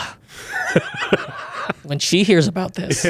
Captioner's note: laughs